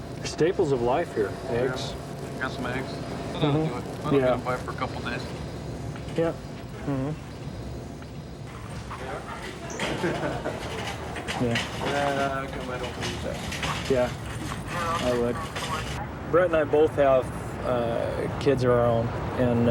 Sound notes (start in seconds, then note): 8.5 laughing